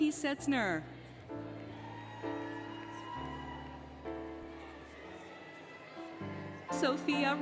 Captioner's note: applause, Cheering, Music